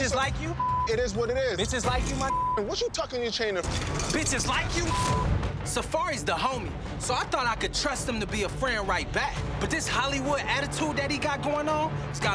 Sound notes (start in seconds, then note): 2.2 beep